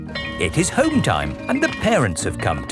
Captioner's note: bell tolling